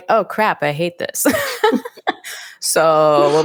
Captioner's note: both laugh